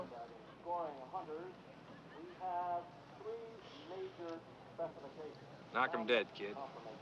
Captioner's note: muffled speaking over loudspeaker